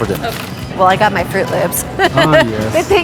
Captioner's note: laughing